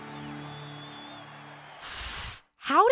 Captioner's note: people cheering